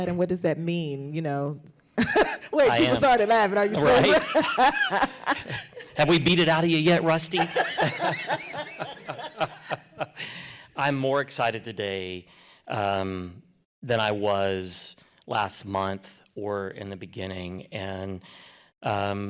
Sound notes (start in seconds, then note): 7.2 laughter